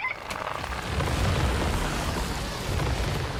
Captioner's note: titters